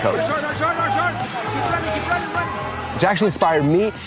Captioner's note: referee yelling